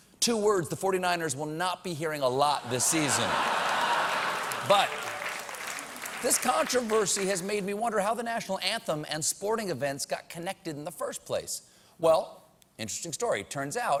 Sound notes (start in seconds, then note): 5.3 applause; 5.3 laughter